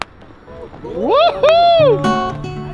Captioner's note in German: Jubel